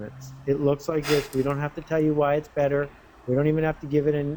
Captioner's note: laughing